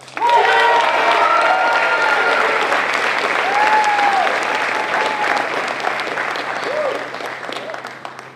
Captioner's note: applause